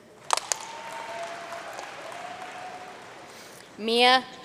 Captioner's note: audience cheering and applauding